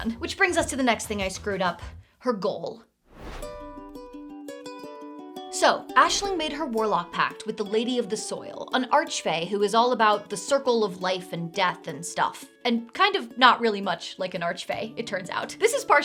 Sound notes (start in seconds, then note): 3.0 whoosh; 3.3 lively music